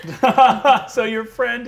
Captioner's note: laughing